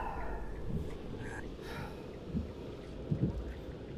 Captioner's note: Len sighing